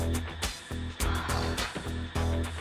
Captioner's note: sighs